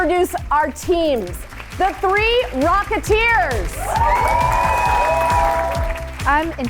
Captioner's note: audience cheering